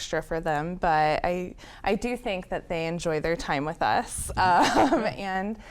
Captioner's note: laughs